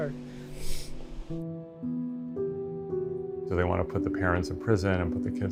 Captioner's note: sniffles